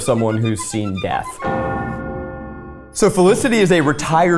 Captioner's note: bell tolls